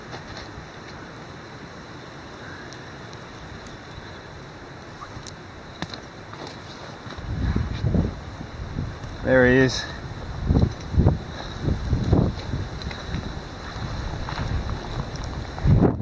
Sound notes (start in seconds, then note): 11.1 wind blowing